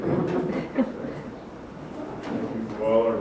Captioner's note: chuckle